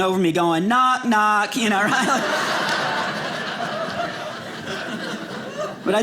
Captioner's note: audience laughing